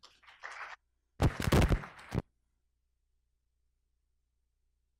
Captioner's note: audience applauding